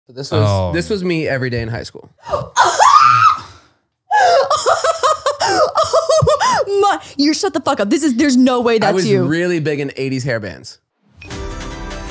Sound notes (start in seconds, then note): 2.5 squealing and laughing; 11.2 lively upbeat music